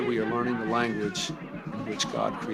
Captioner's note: soundbite of archived recording